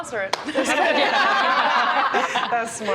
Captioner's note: laughter